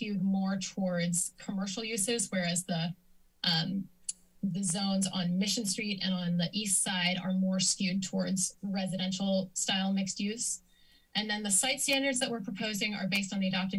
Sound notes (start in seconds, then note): 3.8 clicks tongue